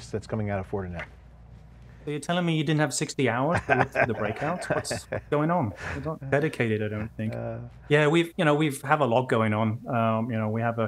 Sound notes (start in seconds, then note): 3.5 laughter